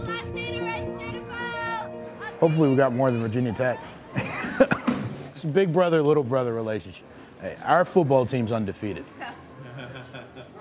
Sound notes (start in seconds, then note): 3.8 laughing